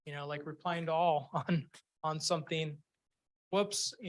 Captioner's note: chuckles